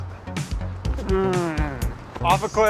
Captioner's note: vocalizes motor